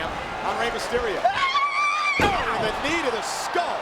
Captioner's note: Tajiri shouts